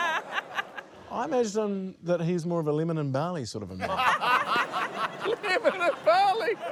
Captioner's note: laughter; laughter